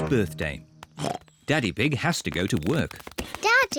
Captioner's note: oinks